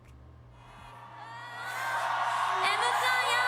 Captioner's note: cheering; in japanese